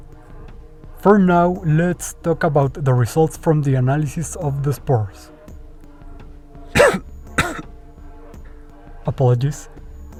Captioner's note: cough